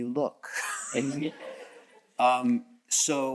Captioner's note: chuckles